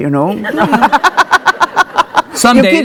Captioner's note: laughing